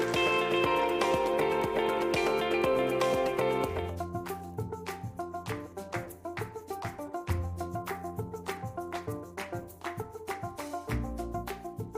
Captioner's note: cheering and applause